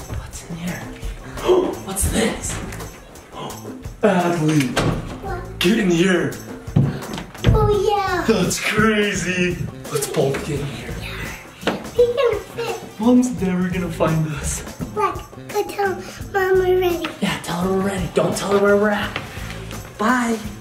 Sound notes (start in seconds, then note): 1.2 gasps; 3.4 gasps